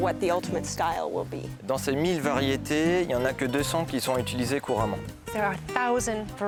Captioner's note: speaking French